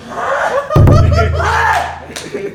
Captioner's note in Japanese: 笑い声